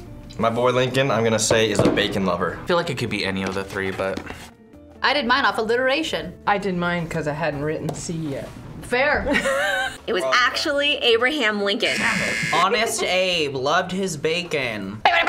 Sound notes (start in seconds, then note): 11.8 buzzer; 11.8 laughs